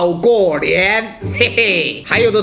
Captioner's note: laugh